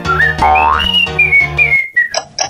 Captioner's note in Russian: свистит